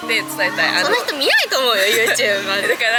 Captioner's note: laughs